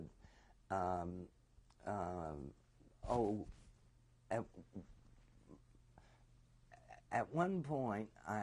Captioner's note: pauses for 3 seconds